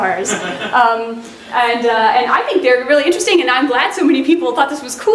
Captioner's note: laughter